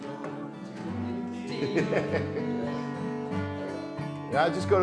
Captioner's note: laughs